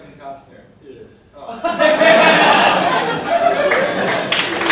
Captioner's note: audience laughs, applauds